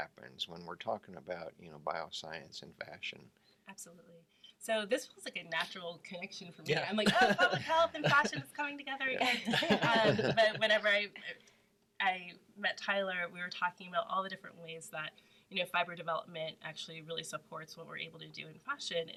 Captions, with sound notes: when we're talking about bioscience and fashion. - Absolutely. So this feels like a natural connection for me, I'm like, oh public health and fashion is coming together again. (all laugh) But whenever I met Tyler, we were talking about all the different ways that fiber development actually supports what we're able to do in fashion,